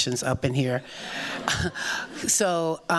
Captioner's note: muffled chuckles